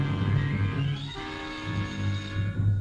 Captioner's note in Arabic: الهاتف